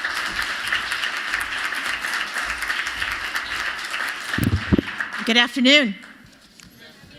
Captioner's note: applause